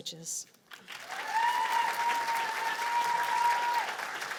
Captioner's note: cheers and applause